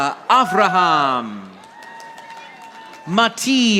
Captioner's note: audience applauding